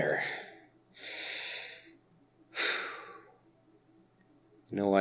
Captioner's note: exasperated sigh